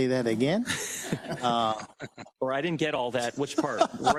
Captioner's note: laugh